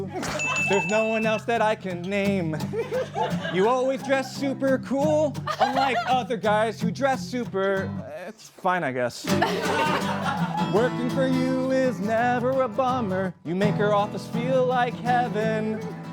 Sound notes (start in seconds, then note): 9.2 laughter